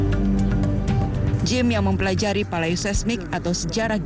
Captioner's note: non-english speech